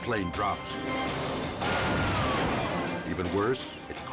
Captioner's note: plane clashes